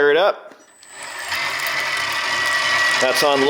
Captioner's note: motor whirring